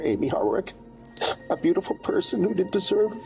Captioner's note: sniffles